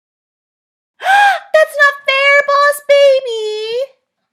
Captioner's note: gasps